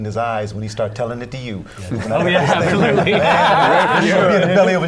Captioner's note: laughter